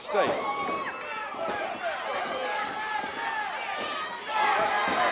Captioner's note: audience jeering